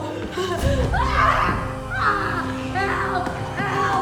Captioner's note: screaming